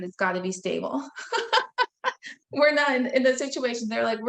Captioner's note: laughing